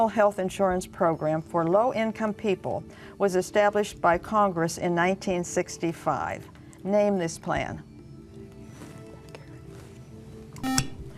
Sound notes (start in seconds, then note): 8.0 whispering; 10.6 buzzer